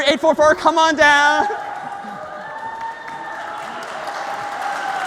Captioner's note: applause